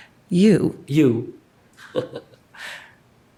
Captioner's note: chuckles